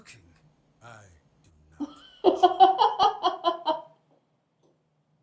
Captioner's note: laughter